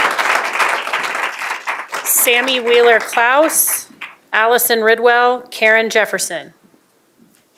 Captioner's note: applause